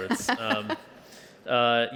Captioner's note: laughter